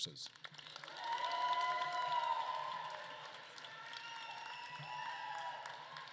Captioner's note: attendees applauding and cheering